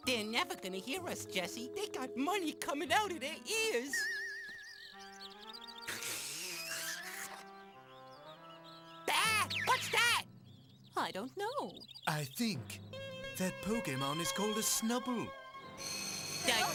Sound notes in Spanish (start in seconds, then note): 5.9 esfuerzo